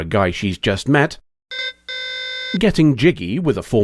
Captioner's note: alarm